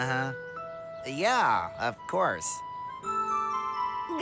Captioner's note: false enthusiasm